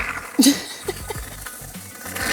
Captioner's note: laughing